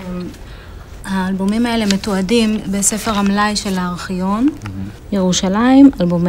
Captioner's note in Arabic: يتحدث باللغة الأجنبية